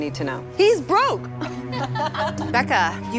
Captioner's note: laughs